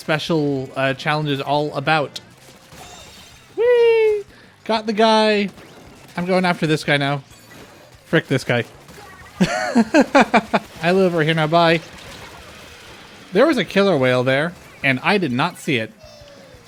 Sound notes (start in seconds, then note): 9.4 laughter